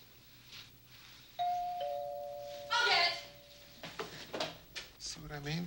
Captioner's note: doorbell rings